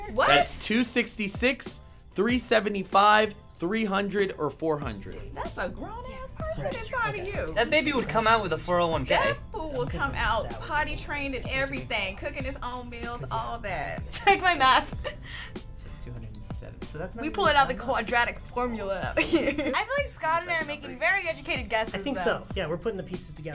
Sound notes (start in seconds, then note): 19.2 chuckles